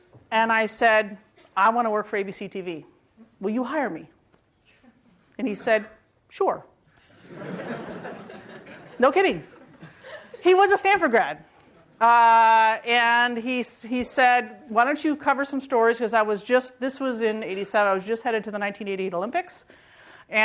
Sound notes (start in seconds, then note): 9.5 laughing